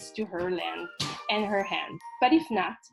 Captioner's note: slapping on door